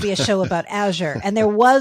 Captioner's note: laughing